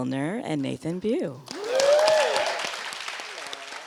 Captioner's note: audience clapping